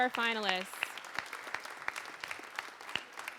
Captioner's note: applause